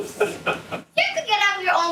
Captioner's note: audience laughing